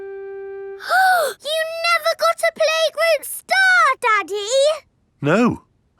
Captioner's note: gasps